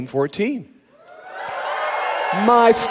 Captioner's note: audience cheering